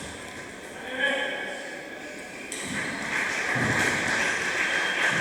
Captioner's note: applause